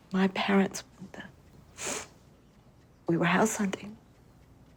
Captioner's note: sniffles